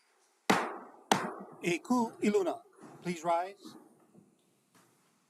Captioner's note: gavel bangs twice